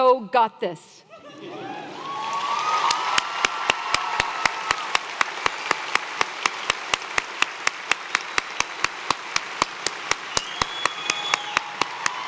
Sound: applause

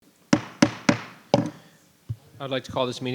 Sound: gavel thudding

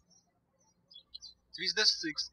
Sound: birds chirping

